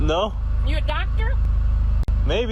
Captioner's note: none